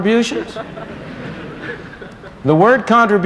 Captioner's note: laughter